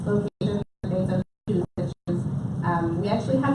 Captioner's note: audio cutting out